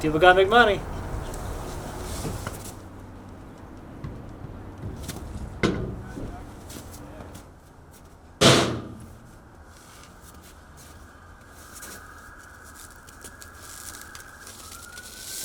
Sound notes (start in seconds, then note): none